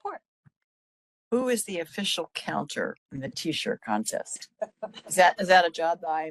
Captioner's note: laughing